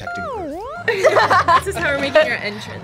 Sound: both laugh

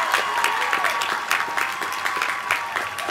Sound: applause

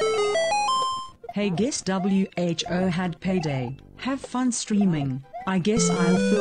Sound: text to speech voice reads message above; 8-bit LoZ item achieved audio

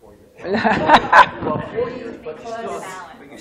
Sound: laughter

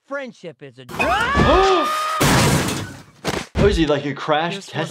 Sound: Steve screams

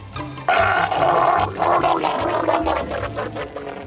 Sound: Frank gurgling

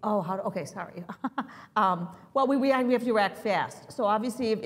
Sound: laugh

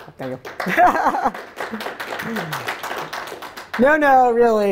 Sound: applause

